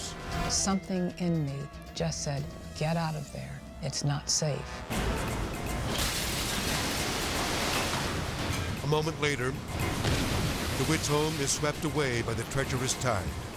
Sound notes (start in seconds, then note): 0.2 edgy dramatic music; 4.8 edgy dramatic music; 5.0 waves exploding